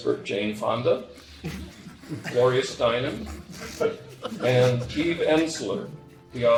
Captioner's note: snickering